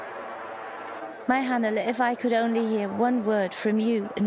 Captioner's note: speaking foreign language